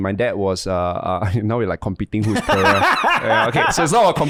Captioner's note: laughing